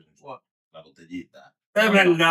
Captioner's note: speaking In Foreign Language